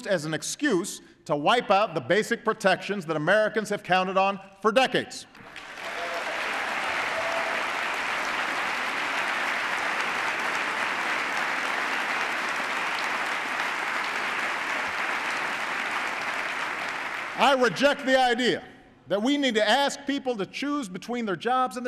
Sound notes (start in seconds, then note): 5.3 applause